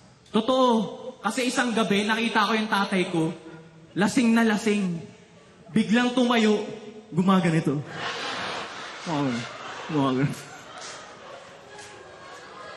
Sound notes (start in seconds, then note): 7.8 laughter